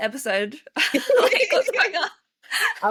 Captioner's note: laughter